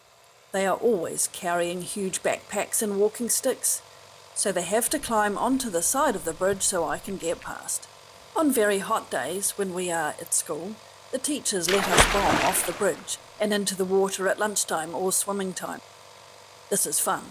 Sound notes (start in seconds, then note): 16.0 big splash